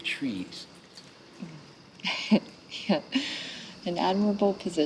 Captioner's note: laughs